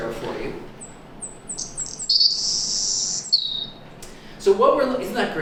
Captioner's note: Savannah Sparrow song